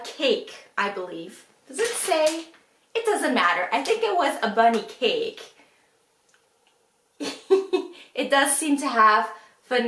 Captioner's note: laughs